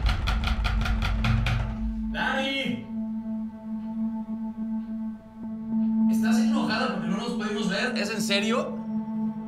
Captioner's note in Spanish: Llama a la puerta